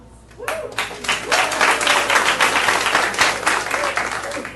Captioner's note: audience applauding